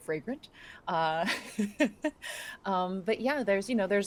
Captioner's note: person laughing